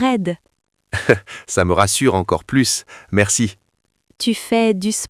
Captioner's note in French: rire